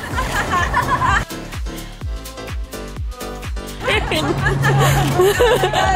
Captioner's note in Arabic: يضحك الجميع